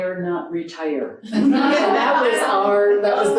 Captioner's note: audience laughing